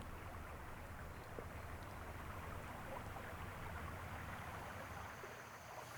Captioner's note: the sound of nearby rushing water